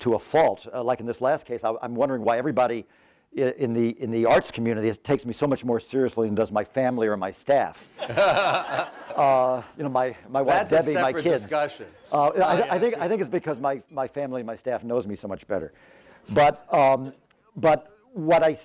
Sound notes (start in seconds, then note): 7.9 laughter